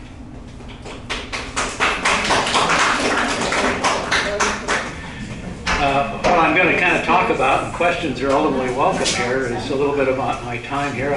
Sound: applause

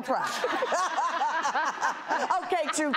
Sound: laughs

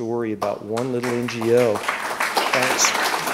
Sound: applause

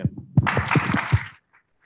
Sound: applause

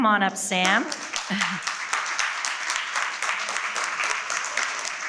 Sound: audience applauding

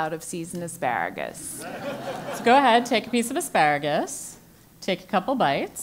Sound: laugh

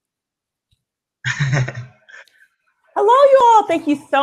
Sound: laughs

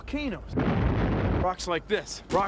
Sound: <i> explosion</i>

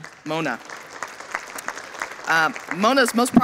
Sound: audience applauding

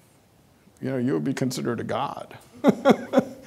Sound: laughing

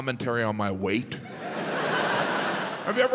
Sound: audience laughs

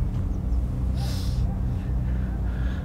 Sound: sniffles

